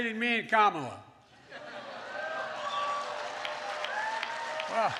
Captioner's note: applause